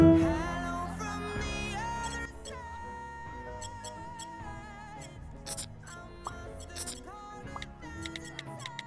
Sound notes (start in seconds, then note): 3.5 beeping